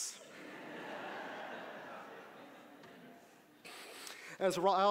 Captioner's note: audience laughing